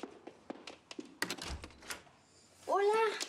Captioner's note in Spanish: sonido al abrir la puerta